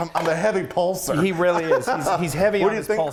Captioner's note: laughing